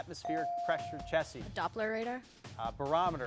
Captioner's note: bell dings